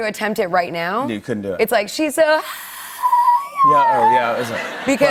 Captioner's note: laughter; voice straining, screeching